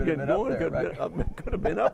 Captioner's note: both laugh